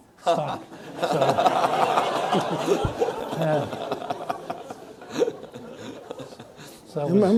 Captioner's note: audience laughs